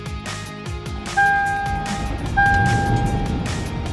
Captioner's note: car beeping